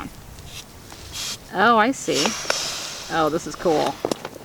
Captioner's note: hissing noises